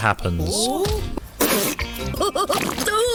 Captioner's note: laughs; splutters